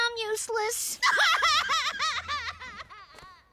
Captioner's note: Amy sobbing